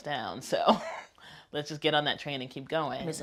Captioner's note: laughs